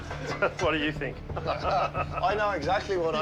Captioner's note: laughs